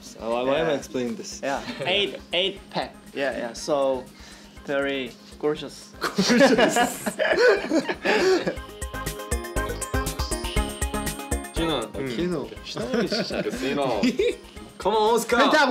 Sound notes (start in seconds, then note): 8.7 laughs; 12.8 laughs